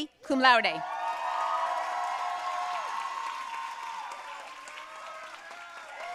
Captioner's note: audience cheering and applauding